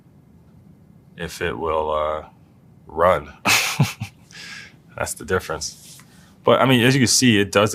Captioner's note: laugh